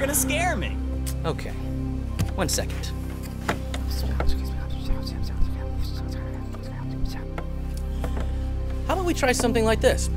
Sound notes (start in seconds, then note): 3.2 whispering